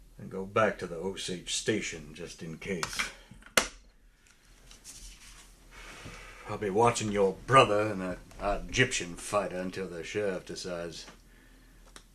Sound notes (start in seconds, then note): none